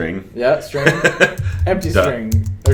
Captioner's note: laughs